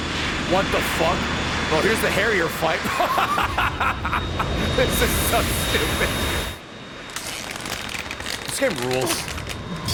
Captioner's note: laughs